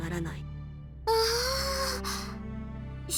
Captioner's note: surprised gasp